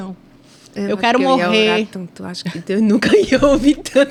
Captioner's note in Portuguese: risadas